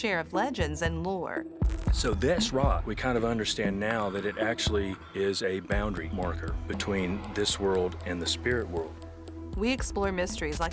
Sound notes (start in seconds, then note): 1.2 television static crackling